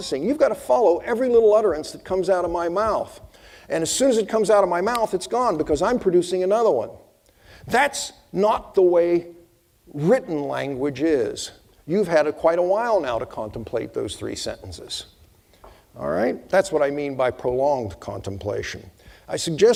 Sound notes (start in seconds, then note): 4.9 snapping fingers